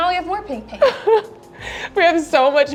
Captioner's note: chuckles